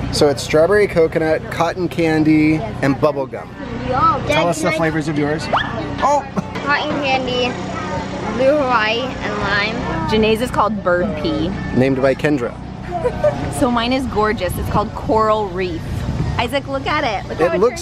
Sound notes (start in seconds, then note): 12.8 laughs